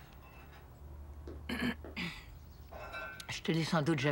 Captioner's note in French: Elle se racle la gorge